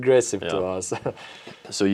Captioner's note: laughs